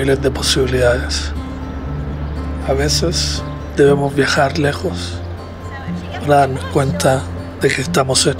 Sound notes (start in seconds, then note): 2.8 narrator continues to speak Spanish